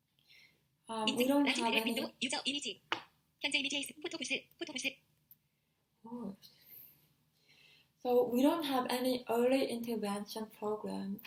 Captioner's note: text to speech